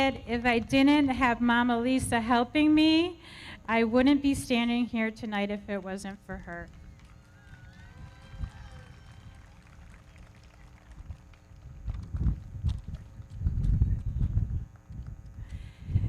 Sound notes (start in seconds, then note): 6.9 audience cheering; 8.2 everybody clapping